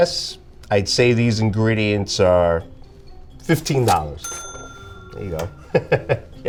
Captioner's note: bell dinging; laughing